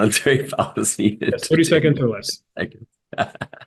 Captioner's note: laugh